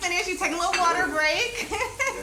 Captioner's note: chuckles